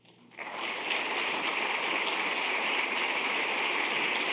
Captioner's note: audience applauds